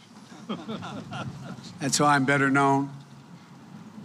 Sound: laughter

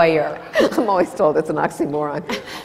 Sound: laughs; laughter

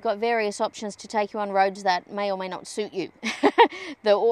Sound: chuckles

